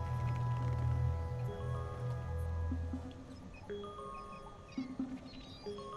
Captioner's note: incoming ringtone; ringtone continues